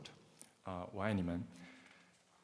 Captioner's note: speaking Mandarin